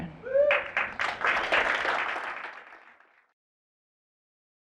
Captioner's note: applause